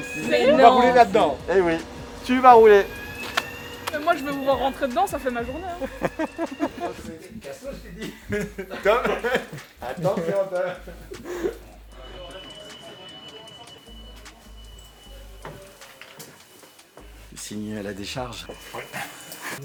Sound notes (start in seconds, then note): 7.7 laughter